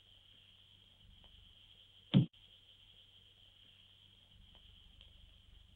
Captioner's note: dart bangs